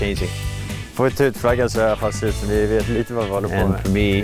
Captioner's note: family speaking in foreign language